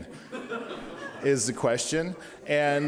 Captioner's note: audience laughing